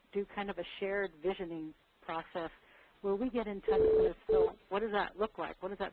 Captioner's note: beeping